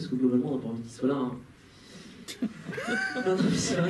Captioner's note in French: rires